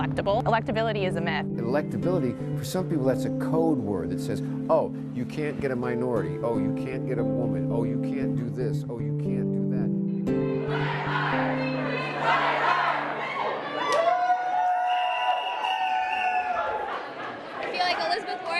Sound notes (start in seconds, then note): 10.6 cheering